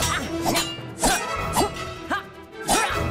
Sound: metal clinking; grunting

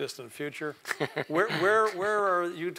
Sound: laugh

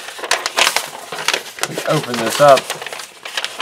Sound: paper crinkles

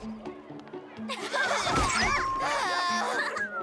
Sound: laughing

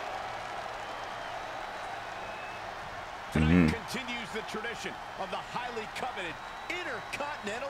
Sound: applause

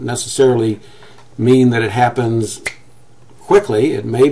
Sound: snaps fingers

